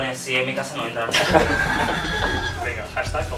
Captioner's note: laughs